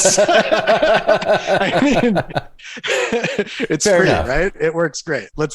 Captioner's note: laughter